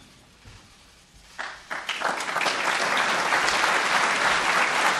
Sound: group applause

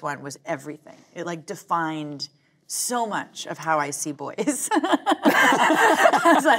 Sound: laughing

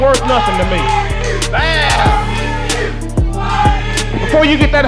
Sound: rednecks chanting "Bar-b-que"

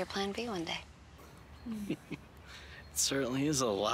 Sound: chuckles

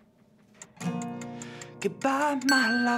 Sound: timer ticking

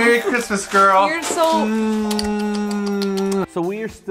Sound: kissing

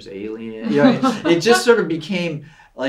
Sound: laughs

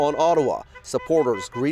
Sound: horns honking

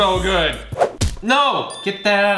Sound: bell chiming

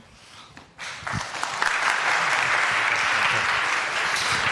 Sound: audience claps

